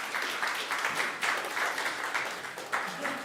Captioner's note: applause